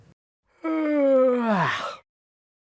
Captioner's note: yawn